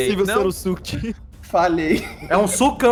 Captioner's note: laughs